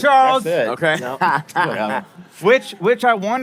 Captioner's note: laughing